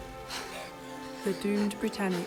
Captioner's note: ladies gasping